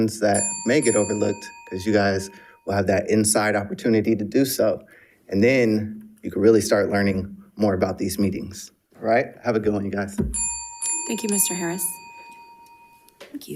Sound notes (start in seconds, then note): 0.3 bell ringing; 10.2 bell ringing